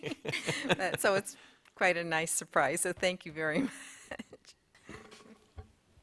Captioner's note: laughter; laughs